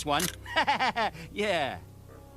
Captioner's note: laughter